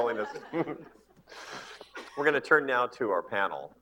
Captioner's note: laughter